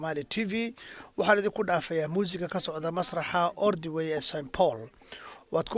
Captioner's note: breathing heavy